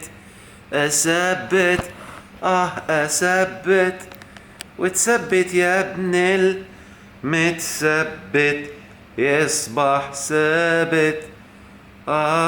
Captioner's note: chanting!